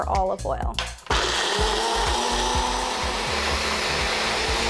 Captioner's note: blender running